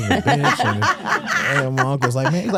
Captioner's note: hosts laughing